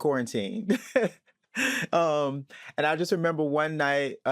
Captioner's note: chuckles